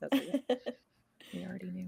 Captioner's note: laughing